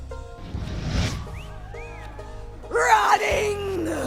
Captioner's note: cat whistling & hooting from prisoners